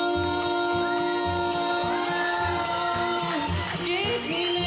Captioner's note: audience cheering